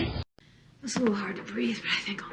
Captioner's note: on TV